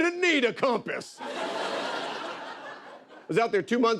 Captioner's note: laughter